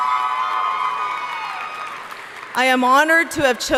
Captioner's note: audience cheering and applauding